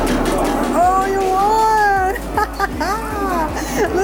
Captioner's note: laughs